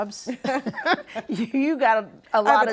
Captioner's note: laughing